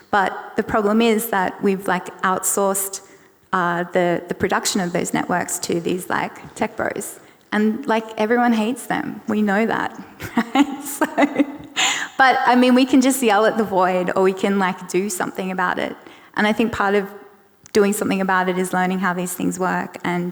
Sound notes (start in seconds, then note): 10.1 laughs